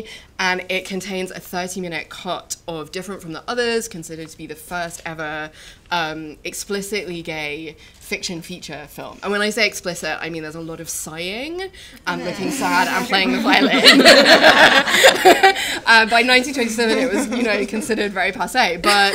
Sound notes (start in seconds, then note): 13.4 laughter